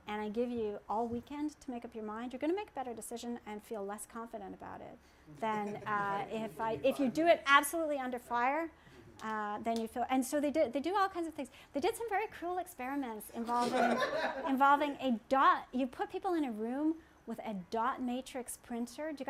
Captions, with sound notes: and I give you all weekend to make up your mind, you're gonna make a better decision and feel less confident about it than if you do it absolutely under fire. And so they do all kinds of things. They did some very cruel experiments (laughter) involving a dot, you put people in a room with a dot matrix printer.